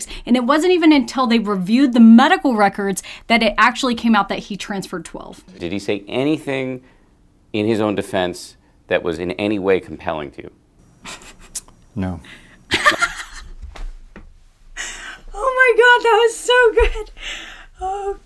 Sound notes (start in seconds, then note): 12.7 laughs